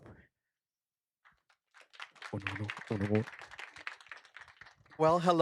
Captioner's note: applause